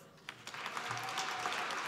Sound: applause

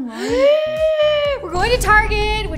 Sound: breaths in excitedly

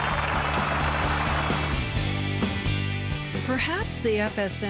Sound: audience clapping; upbeat music

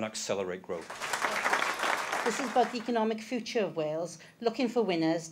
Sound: applause

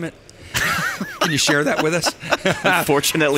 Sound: laughing

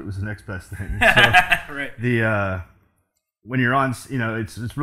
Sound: laughs

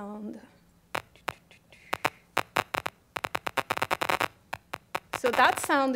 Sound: static sounds

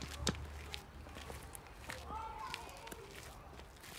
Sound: children's voices in distance

